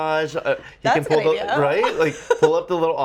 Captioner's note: laughs